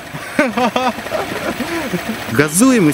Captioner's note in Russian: А-ха-ха